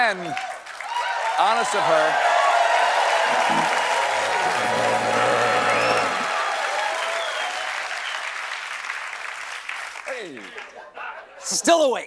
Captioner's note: applause